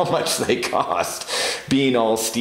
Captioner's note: laughs